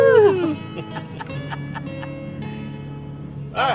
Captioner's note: laughing